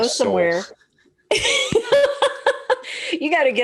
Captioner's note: laughing